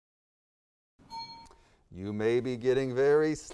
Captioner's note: bell dings